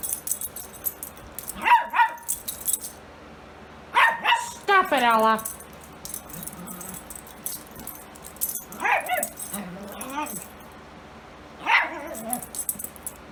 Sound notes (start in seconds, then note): 0.7 Ella continues barking; 6.5 Ella barks and growls